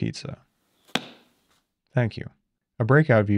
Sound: pizza thudding

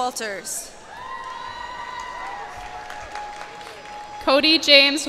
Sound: cheers and applause

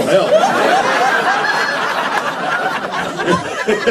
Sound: laughter

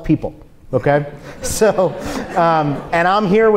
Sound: audience laughs

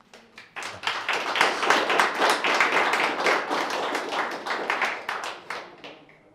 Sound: clapping

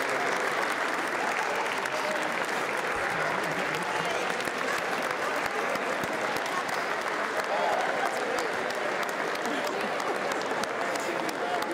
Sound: applause

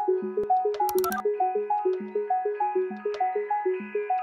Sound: mouse clicking

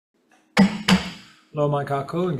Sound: gavel bangs

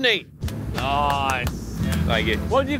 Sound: slow claps

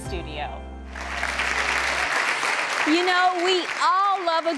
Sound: audience clapping

